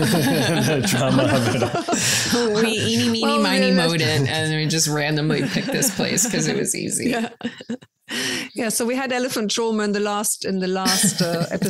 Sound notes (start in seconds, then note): 7.4 everyone laughs